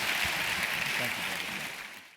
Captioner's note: applause